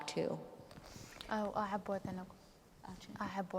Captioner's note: speaking kurdish